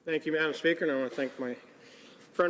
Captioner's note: speaking French